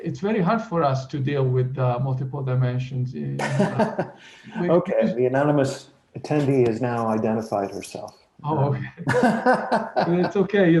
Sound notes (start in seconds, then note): 2.7 laughs; 9.0 laughs